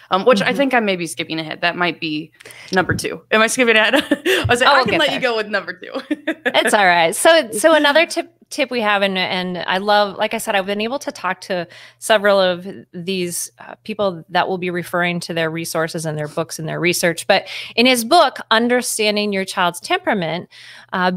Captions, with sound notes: which I think I may be skipping ahead, that might be number two. Am I skipping ahead? (laughs) I can let you go with number two. - It's all right. So, another tip we have, and I love, like I said, I've been able to talk to several of these people that we'll be referring to their resources, and their books, and their research, but in his book, "Understanding Your Child's Temperament"